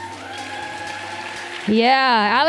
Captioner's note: applause